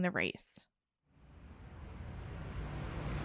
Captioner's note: cars driving